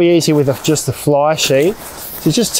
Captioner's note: tent crumpling